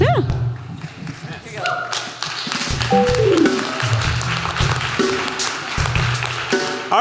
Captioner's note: applause